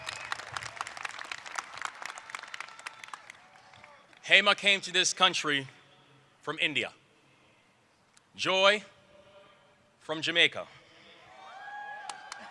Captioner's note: applause